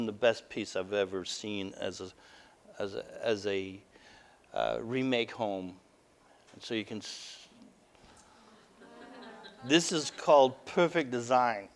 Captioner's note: audience: Laughter